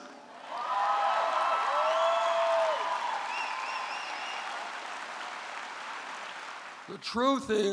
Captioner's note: applause